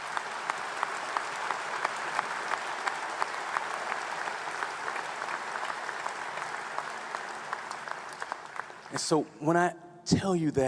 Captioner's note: applause